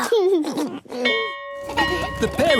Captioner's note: giggles; bell ringing